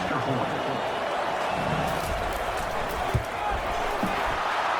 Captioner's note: crowd Noises